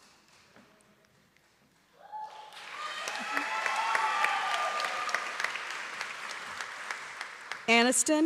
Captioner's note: applause and cheering